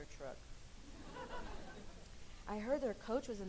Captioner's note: laughing